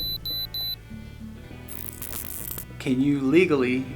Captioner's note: detector beeps